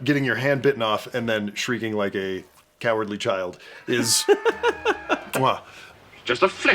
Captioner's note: muah